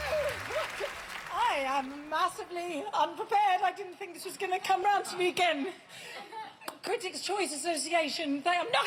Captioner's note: cheers and applause